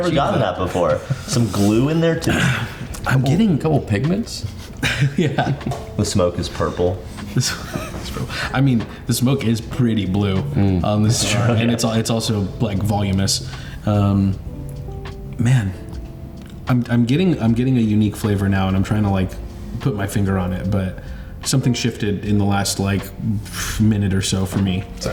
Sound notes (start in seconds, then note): 2.2 clears throat; 4.4 chuckles; 7.2 chuckles